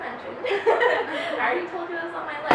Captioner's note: laughing